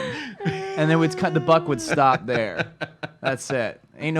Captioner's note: laughs